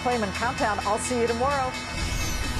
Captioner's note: closing bell rings